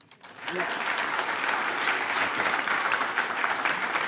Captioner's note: attendees applaud